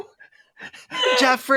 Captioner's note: laughter and wheezing